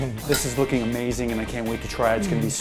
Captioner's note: laughs